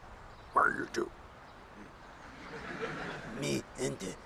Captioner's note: audience laughing